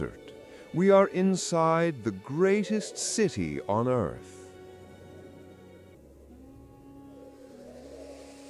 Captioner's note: howling